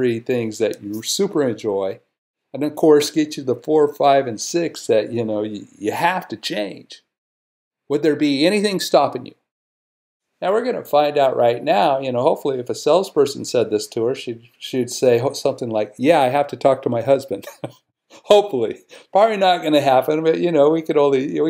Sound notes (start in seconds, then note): 17.4 laughs